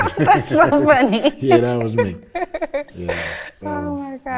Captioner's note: laughs